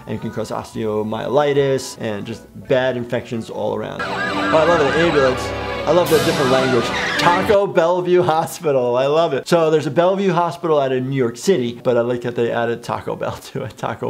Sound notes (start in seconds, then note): 4.0 ambulance sirens whining; 4.0 tense music